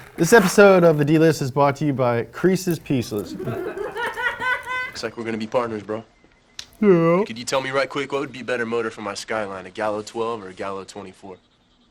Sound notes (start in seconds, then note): 3.2 woman laughs loudly